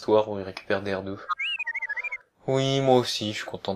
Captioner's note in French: R2 siffle